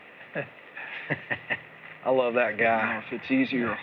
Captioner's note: chuckles